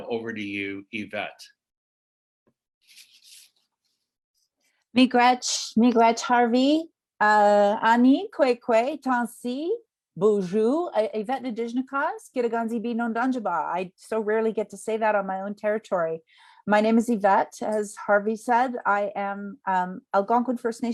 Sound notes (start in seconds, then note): 7.4 speaking Indigenous language